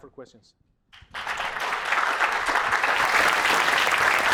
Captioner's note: applause